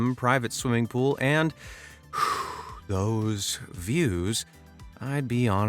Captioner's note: sharply exhaling